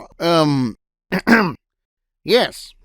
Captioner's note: ahem